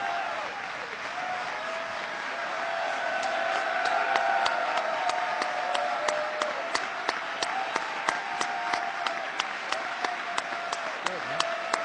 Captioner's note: applause